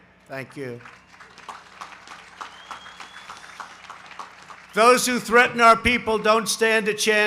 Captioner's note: applause